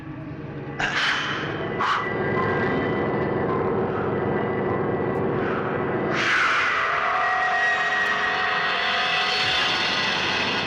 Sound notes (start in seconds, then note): 0.1 grunting; 1.5 wind howling